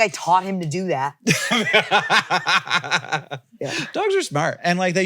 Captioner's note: laughs